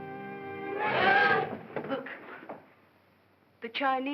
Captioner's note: ominous music; Gail gasps